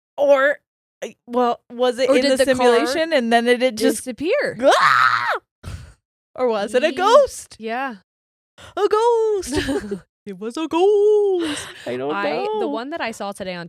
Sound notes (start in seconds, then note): 4.6 shrieks